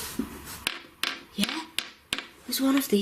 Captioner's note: tapping